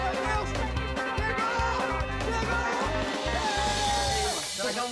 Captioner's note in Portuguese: aclamando